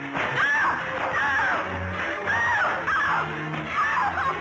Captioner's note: screaming